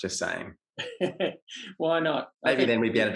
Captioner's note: laughs